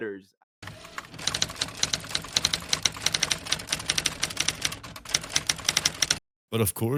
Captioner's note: typewriter noises